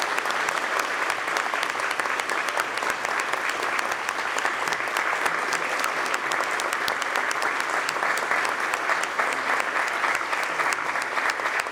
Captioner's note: applause